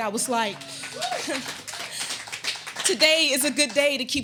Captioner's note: audience applauding